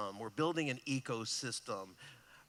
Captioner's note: none